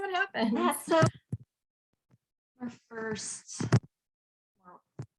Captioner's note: audio interference